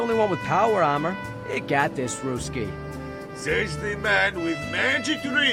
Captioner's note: strained